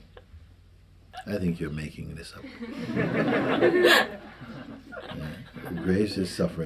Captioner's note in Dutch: gelach